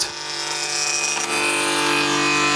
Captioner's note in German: Ratterndes Surren